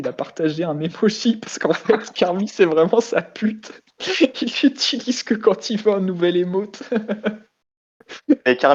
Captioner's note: laugh